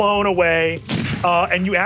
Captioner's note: mimics shots firing; gun booming